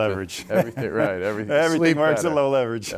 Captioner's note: laughs